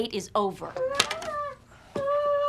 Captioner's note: whining